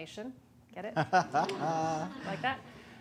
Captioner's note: laughter